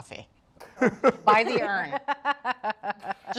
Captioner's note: Jack and Julia laugh